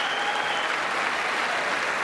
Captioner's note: applause